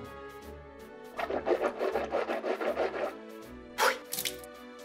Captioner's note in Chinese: 咕嚕咕嚕咕嚕